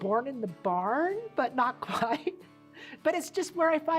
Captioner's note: laughs